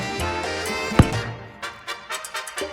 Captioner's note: pompous comedy music; loud impact; pompous comedy music